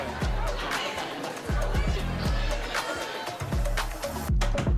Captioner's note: chatter